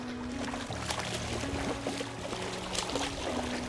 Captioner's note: water splashing